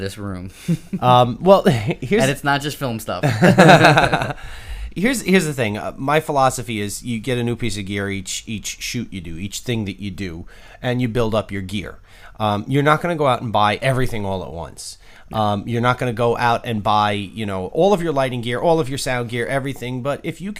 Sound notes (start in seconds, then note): 3.2 haha